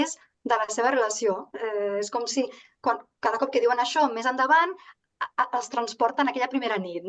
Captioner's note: continues speaking in Catalan